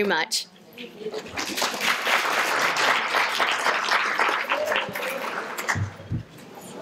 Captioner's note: applause